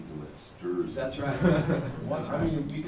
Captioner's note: laughter